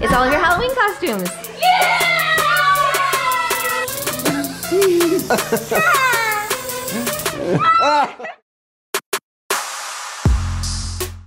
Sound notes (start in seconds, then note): 4.2 laughing; 8.9 funky electronic music